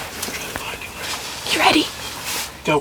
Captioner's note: whispering